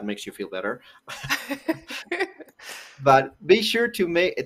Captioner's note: laughter